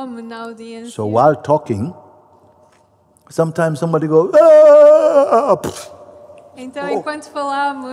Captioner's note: mimics a wail and collapse